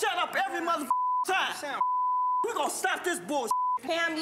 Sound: beep

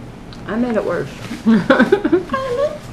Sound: laughter

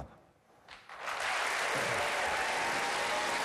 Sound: applause

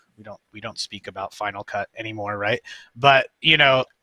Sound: none

